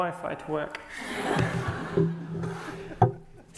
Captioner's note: laughter